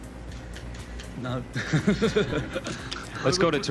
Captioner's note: laughs softly